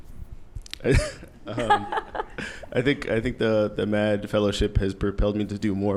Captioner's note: laughs